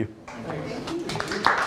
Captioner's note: applauding